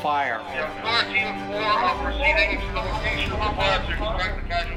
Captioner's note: radio Sounds